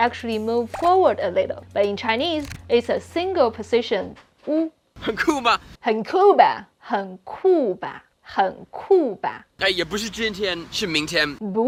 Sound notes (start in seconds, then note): 5.1 speaking in Mandarin